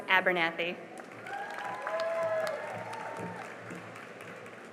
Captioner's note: cheering and applause